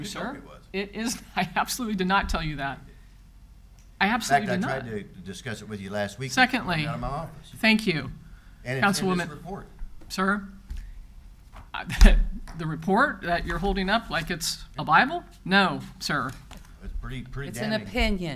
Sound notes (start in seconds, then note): 1.5 laughs; 11.0 chuckles